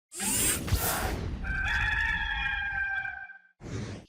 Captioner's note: cock crowing